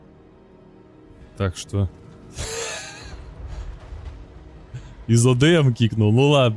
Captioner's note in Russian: смех